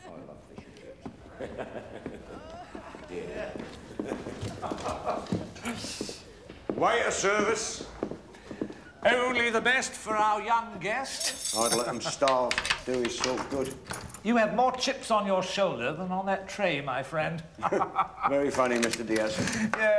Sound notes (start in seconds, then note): 1.2 laughs; 11.1 laughs; 17.6 chuckles; 17.6 laughs